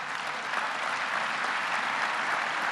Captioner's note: applause